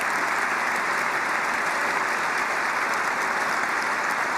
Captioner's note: applause